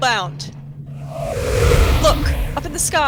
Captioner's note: loud rush of air